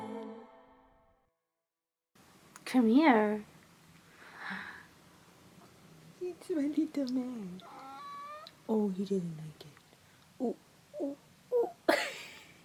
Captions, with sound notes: Come here. It's my little man. (cat meows) Oh, you didn't like it. Ooh, ooh, ooh (chuckles).